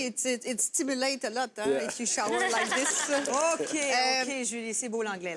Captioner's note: laughter